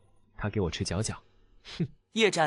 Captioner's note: sigh